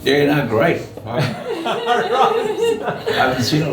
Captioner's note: all laugh